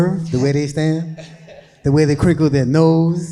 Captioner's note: people laughing